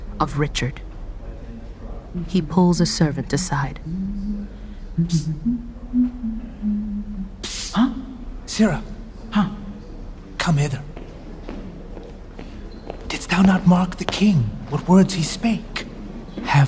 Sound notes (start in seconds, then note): 3.7 humming; 8.5 quietly; 10.9 footsteps